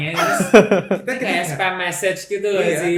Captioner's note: laughter